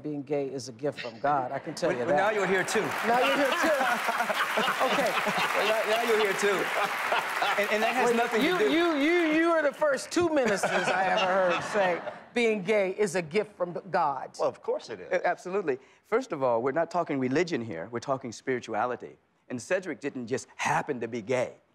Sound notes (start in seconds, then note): 4.7 laughter; 5.6 applause